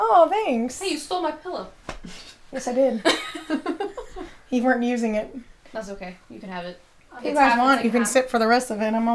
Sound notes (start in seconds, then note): 2.6 women laughing